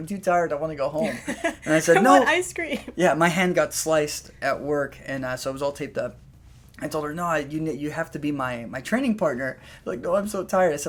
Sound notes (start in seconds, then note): 1.0 laughter